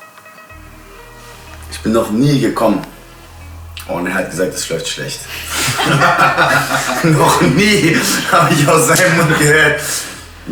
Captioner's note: laughing